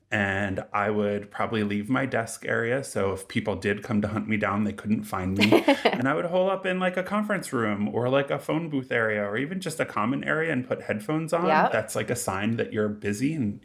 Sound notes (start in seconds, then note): 5.4 laughing